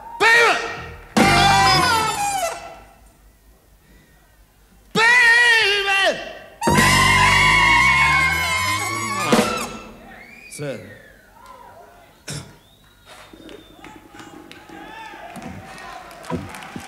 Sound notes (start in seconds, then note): 12.2 coughs; 13.1 audience cheers